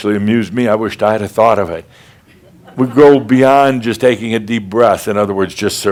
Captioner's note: a few chuckles